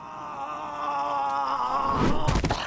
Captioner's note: unconscious screaming; splat